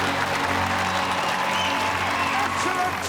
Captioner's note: cheering